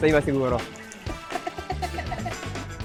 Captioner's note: laughs